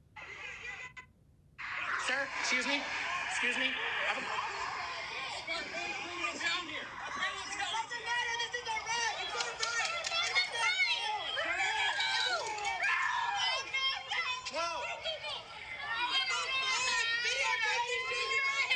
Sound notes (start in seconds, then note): 0.2 crowd noise; 4.2 crowd noise; 13.2 screaming